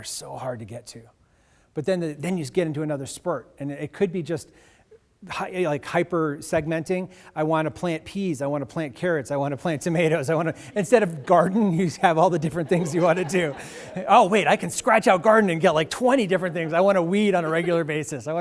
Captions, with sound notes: so hard to get to. But then you get into another spurt. And it could be just hyper-segmenting. I wanna plant peas. I wanna plant carrots. I wanna plant tomatoes. (laughs) Instead of garden, you have all the different things you wanna do. (audience laughing) Oh, wait, I can scratch out garden and get 20 different things. I wanna weed on a regular basis.